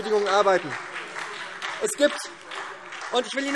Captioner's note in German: Beifall SPD und DIE LINKE